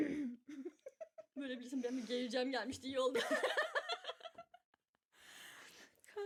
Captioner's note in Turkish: kahkaha